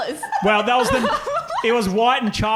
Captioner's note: laughing